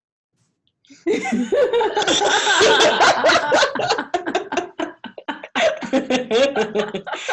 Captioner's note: both laughing